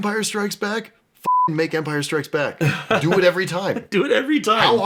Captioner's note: beeping